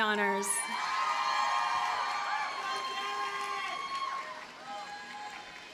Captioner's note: audience cheers and applauds